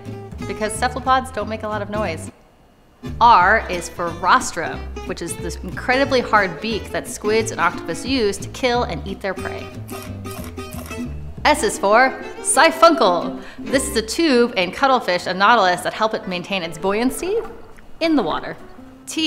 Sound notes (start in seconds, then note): 2.2 music cuts out momentarily; 9.9 chomping noises